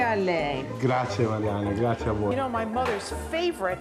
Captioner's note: speaking Italian